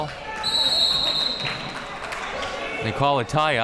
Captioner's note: whistle blowing